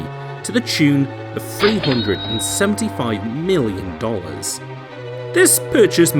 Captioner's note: cash register